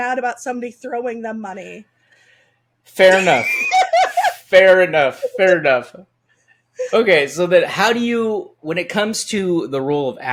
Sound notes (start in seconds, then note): 3.0 laughing